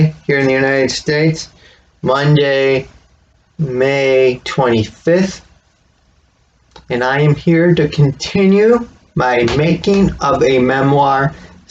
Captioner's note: smack of phone being placed on desk